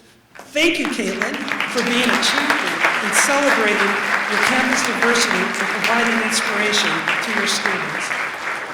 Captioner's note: applause